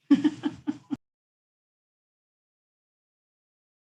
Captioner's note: laughing